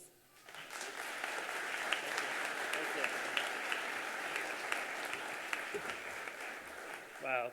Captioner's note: applause